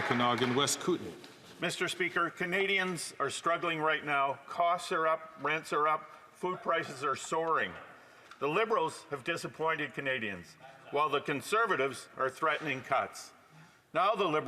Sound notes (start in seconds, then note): 1.6 some Applause